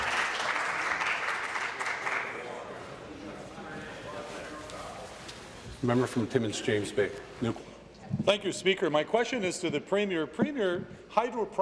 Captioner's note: applause